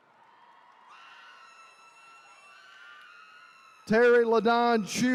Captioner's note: attendees cheering